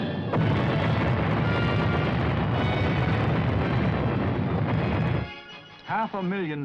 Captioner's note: bombs exploding